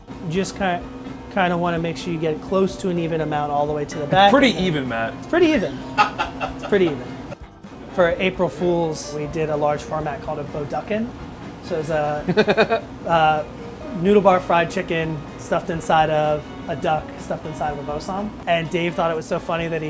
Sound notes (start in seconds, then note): 5.7 laughter